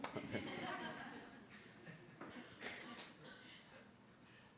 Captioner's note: laughing